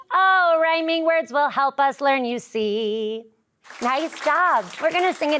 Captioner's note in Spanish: la audiencia aplaude